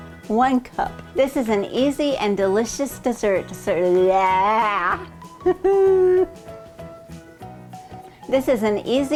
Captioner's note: laughing